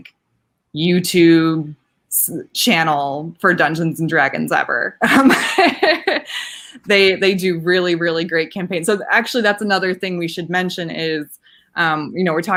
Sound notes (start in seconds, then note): 5.0 laughing